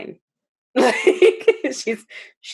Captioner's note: laughs